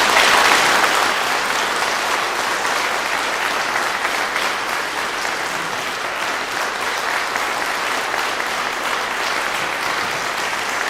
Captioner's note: clapping